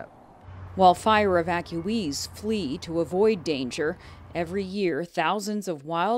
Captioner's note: voice-over